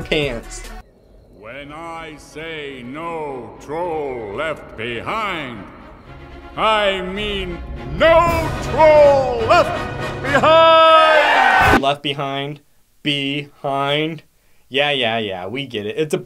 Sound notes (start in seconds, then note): 8.8 crowd cheers